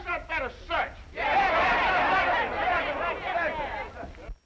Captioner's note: all shouting